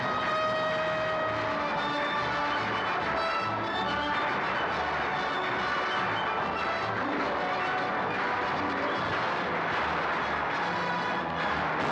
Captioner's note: bugle call; triumphant orchestral music; sounds of battle; wall explodes